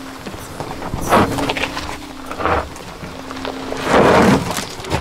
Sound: tires slipping

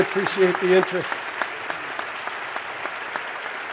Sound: applause

